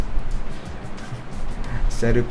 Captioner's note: chuckle